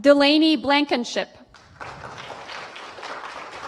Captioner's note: applause